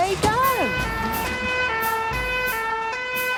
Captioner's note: siren sounding